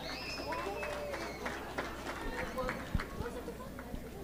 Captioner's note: audience clapping